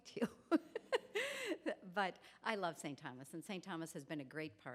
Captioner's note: chuckles